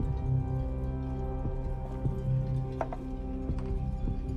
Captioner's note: heart beating